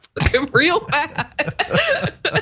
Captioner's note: laugh